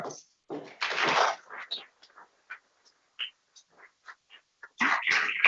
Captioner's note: people clapping